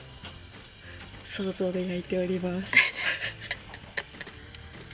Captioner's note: laughs